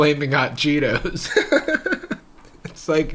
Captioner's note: laughing